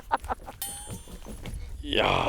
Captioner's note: pushing the chair